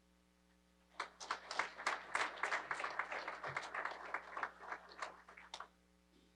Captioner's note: applause